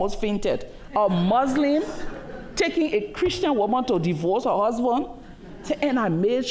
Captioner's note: laughter